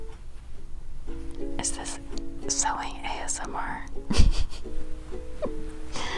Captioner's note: whispers; giggle